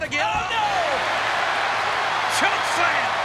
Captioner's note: audience cheers